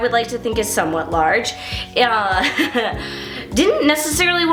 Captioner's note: laughs